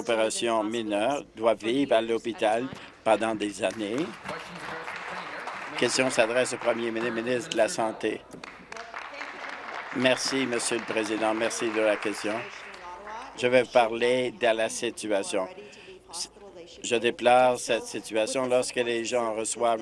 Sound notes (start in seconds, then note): 6.8 applause